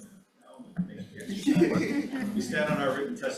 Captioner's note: attendees chuckling